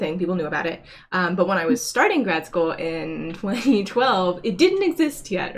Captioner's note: chuckles